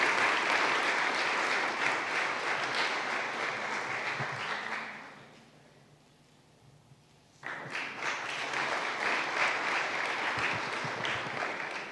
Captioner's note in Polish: oklaski